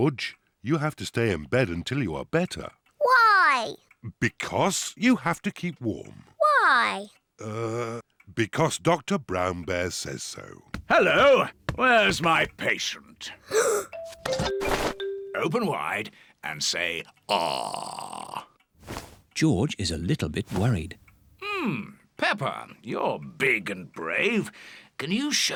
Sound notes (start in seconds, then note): 13.4 gasps